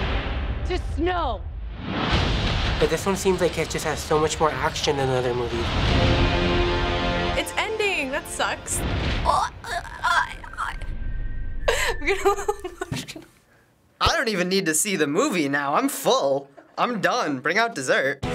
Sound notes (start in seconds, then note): 5.6 dramatic music; 8.8 stammering; 11.0 Rue's Whistle; 11.7 laughs; 18.1 punk rock music